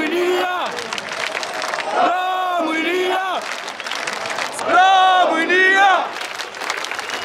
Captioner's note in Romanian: Aplauze